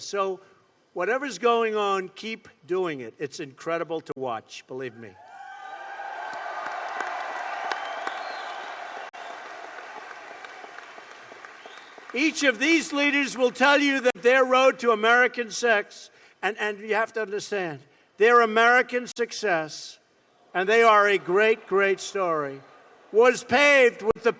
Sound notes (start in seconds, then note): 8.6 applause